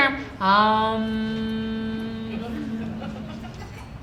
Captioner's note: chanting